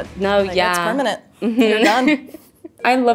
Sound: giggling

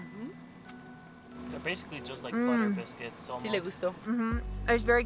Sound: in Spanish

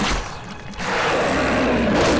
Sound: growling

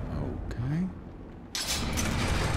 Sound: trap triggers

